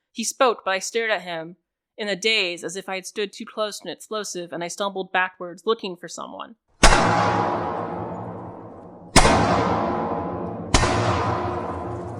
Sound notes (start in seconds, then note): 6.8 isolated, amplified distinct, steady gunfire for the cracks